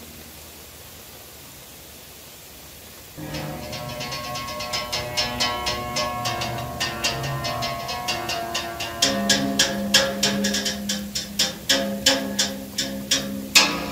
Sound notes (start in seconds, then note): 3.2 instrument Playing; 3.2 rain Pouring